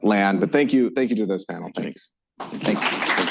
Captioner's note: applause